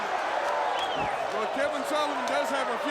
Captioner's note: crowd cheering